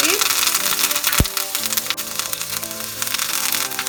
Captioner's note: food sizzles